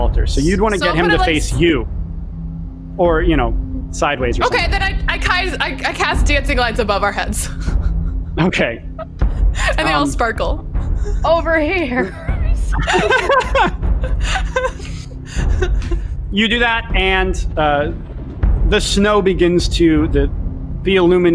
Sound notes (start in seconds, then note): 12.5 laughing